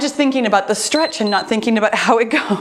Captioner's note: timer beeps